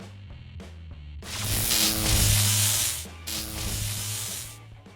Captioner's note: electric buzz